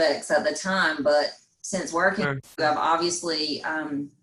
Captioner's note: faintly speaking